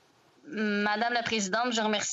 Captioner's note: speaking French